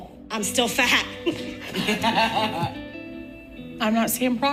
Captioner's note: laughing